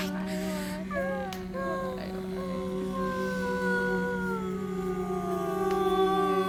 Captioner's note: humming, Breathing And Sighing